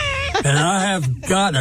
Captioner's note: laughing